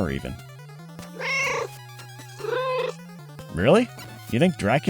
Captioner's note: meow, meow